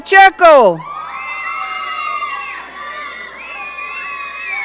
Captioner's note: audience cheering